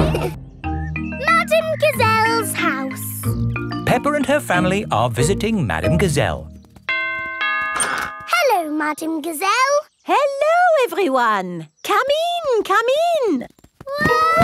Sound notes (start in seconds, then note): 6.9 doorbell rings